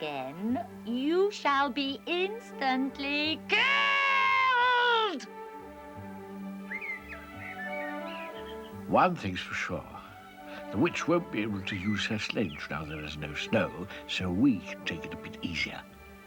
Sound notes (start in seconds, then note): 5.8 birds chirping